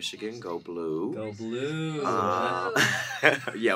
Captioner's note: laughs